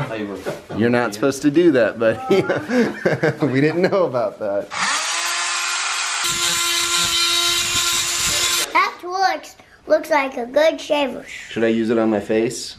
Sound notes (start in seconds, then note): 4.7 drilling